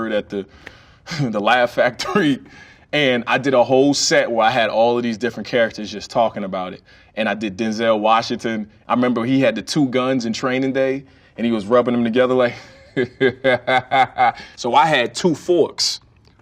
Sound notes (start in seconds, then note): 12.5 chuckles